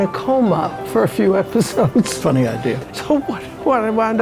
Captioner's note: laughs